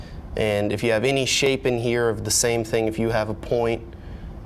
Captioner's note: none